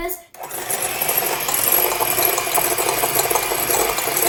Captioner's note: mixer whirs